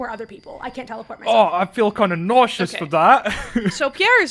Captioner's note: laughs